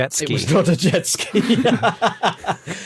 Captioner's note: laughs